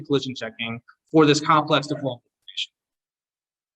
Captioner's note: audio distortion